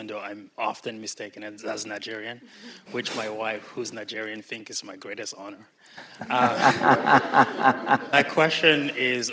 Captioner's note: laughter